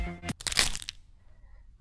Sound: crack

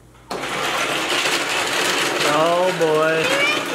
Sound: chopping ice

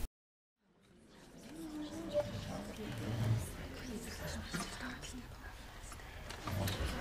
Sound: chatter

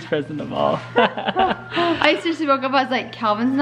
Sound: laughing

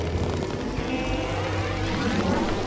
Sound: freeze noises

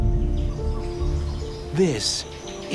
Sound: exotic birds calling

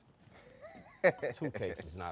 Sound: presenter laughing

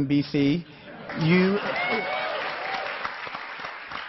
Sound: cheering

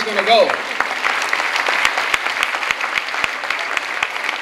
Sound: clapping

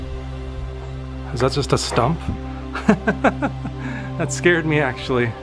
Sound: laughter

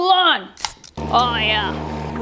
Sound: can top pops

